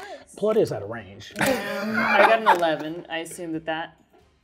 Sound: laughing

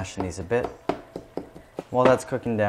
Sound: spoon clinking

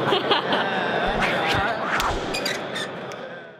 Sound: laughter

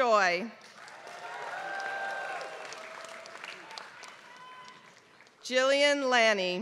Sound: applause

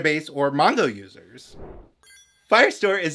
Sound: whoosh

